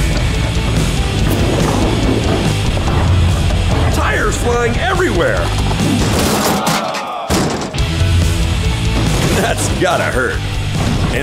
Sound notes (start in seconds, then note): 0.1 metal music; 6.5 crashing